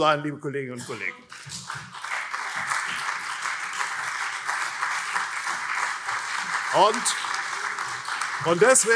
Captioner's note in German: Beifall CDU und SPD